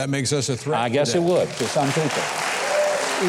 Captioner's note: applause